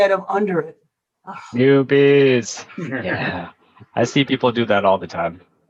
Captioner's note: laughter